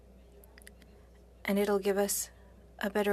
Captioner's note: speaking French